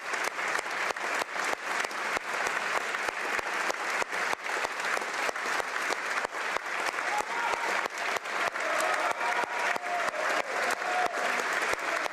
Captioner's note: applause